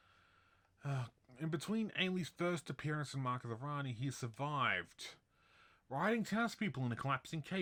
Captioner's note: deep breath